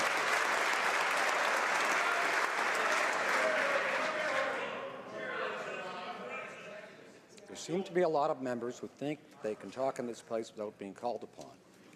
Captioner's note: some Applause